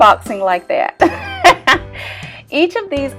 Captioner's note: laughter